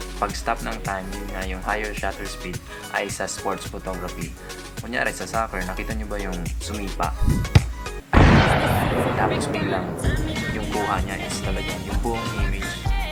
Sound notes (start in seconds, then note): 7.3 kicking sound